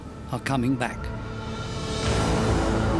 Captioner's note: wind howling; ominous music